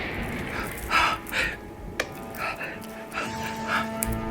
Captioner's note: thunder rumbling